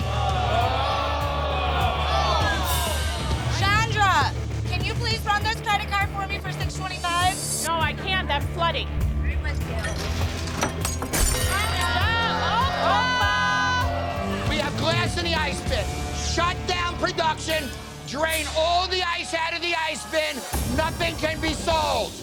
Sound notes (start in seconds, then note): 0.0 patrons groan; 9.7 class clinks, shatters